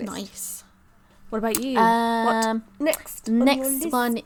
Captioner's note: hums